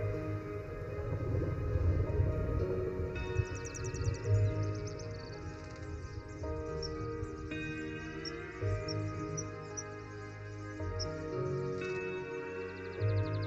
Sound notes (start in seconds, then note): 0.8 thunder rumbling